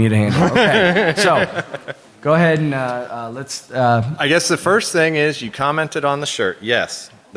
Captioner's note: laughter